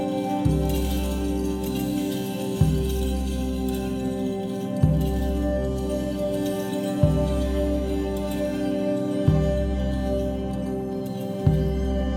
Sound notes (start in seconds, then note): 2.7 jingles clinking